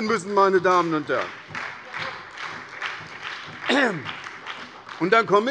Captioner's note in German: Beifall bei der SPD